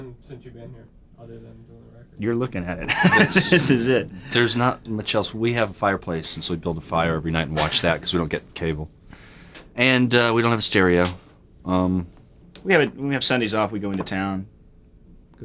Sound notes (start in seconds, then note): 2.8 laughs